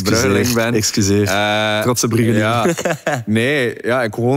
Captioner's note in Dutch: gelach